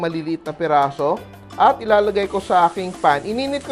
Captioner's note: sizzle